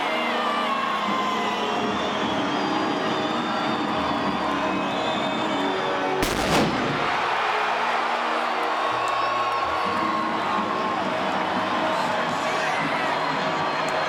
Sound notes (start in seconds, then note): 4.3 crowd cheering; 6.2 fireworks exploding; 6.8 crowd cheering